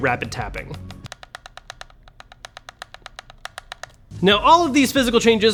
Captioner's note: controller clicking